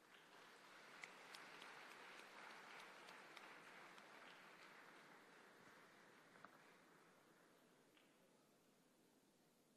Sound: applause

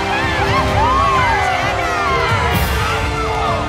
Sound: all cheering

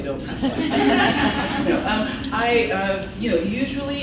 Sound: laughs

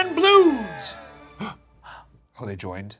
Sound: Professor and Ricky gasping

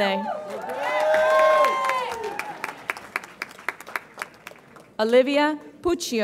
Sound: audience applauds and cheers

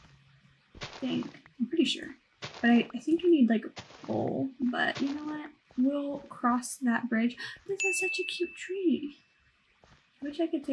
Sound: gasp

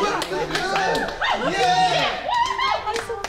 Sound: cheering

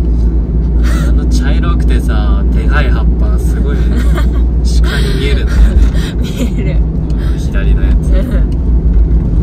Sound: haha

